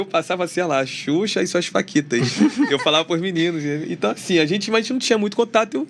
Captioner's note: risadas